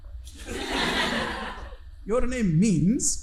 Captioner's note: audience laughing